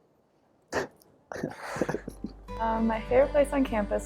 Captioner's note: laughter